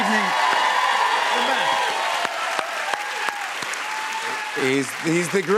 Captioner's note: cheers and applause